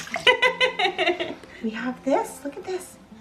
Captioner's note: laughs